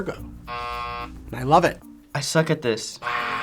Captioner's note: buzzer rings